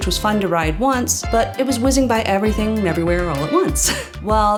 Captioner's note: chuckle